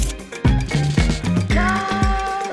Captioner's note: paper tearing; typing; upbeat music continues